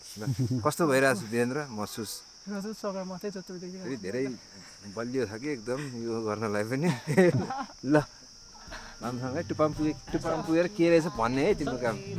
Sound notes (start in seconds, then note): 6.8 laughs